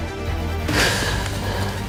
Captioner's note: gasps